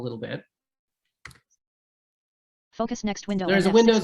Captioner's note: mouse clicking